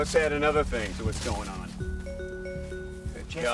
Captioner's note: phone chimes